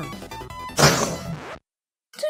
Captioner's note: pshewww